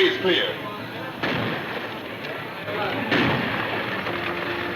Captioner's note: gunfire booms